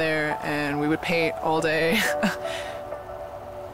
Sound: chuckles

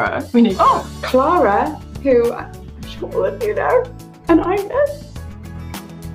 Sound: continues in crying-like voice

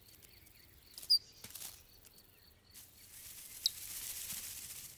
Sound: bird chirping

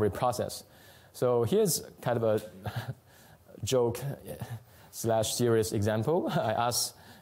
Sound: chuckles

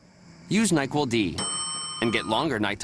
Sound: ding!

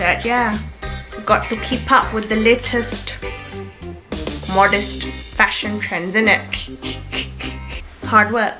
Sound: chuckles

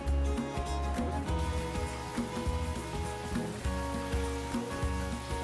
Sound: eggs pouring into water

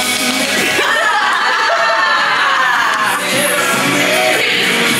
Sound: all laugh

